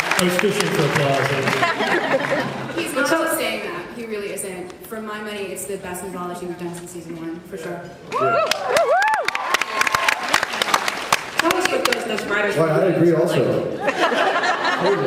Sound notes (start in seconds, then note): 8.1 cheers; 13.8 laughs